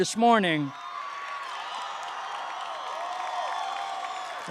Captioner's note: cheering